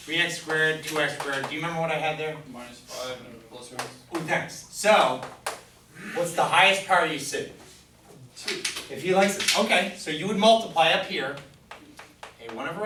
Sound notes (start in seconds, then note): 3.0 voiceover; 8.6 voiceover